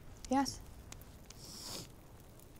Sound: sniffles

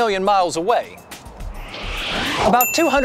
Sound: high-speed wind sound

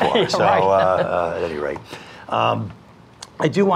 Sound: laughs

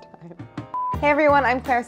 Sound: beep

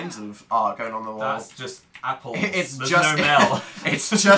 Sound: laughs

